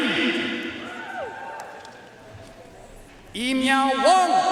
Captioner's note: audience cheering and applauding